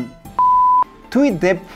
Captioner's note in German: Piepton